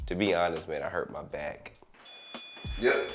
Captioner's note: beeping